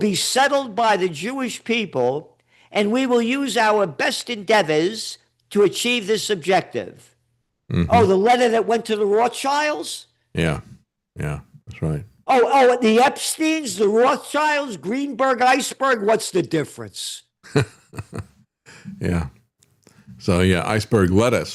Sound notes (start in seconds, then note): 17.5 laughing